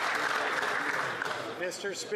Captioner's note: applause